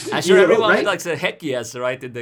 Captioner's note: murmurs